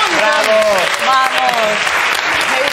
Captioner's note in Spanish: Aplausos